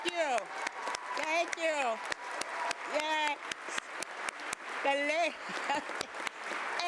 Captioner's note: applause